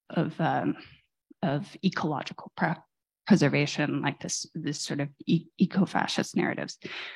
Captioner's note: none